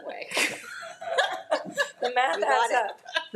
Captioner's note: people laughing